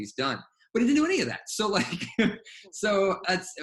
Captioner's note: laughs